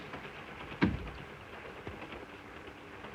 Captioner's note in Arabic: صوت خشخشة القطار; يغلق الباب; صوت خشخشة القطار